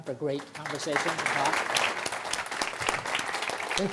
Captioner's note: applause